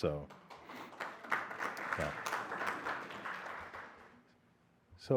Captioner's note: applause